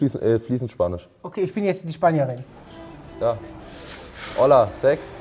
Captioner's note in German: Kaffeehausgeräusche